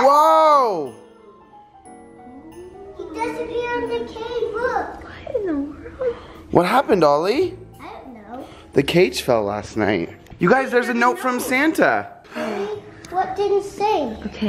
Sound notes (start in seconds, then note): 5.7 whispering